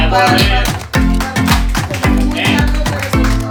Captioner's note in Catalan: aplaudiments